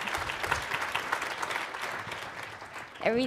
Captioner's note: applause